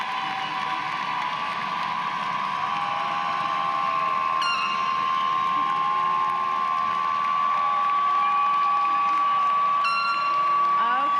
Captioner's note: cheers and applause